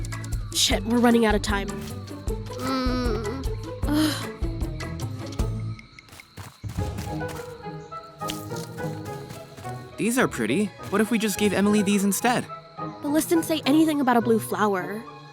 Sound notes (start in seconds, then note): 2.5 groans, sighs